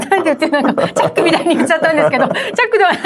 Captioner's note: laughs